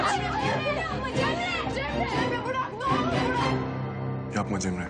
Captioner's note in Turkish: Bağırışmalar